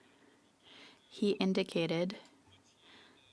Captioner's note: speaking French